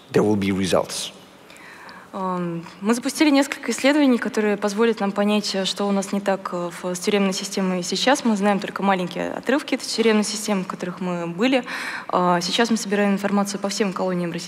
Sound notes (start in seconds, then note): 2.4 foreign Language